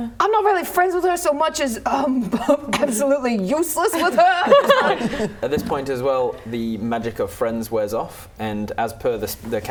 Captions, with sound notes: I'm not really friends with her so much as absolutely useless with her *laughing* At this point as well, the magic of friends wears off And as per the